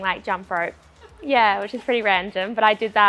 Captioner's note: woman laughs